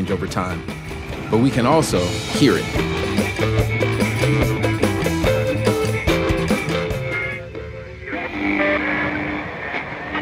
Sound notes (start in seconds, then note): 0.0 upbeat music; 4.9 radio tuning